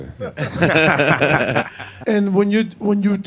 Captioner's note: all laughing